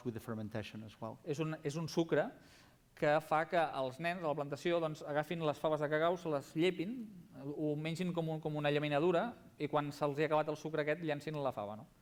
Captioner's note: non-english speech